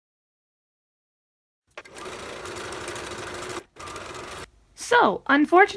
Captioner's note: sewing machine sped up faster than normal